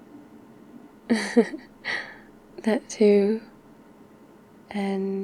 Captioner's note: laughs